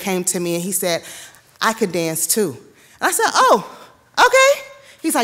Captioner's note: none